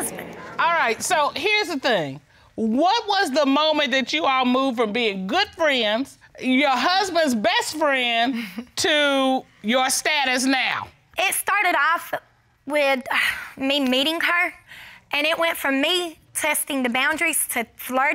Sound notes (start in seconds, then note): 8.4 chuckles